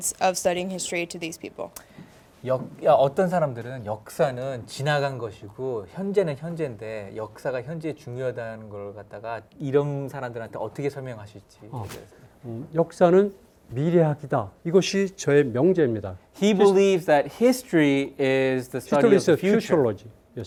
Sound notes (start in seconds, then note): 2.7 speaking in Korean; 12.8 speaking in Korean